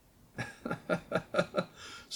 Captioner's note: chuckles